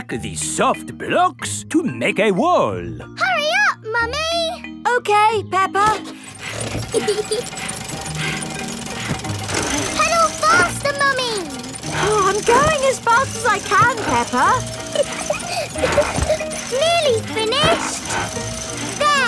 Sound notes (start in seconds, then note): 6.6 peppa laughing; 6.6 mummy pig panting; 14.8 peppa laughing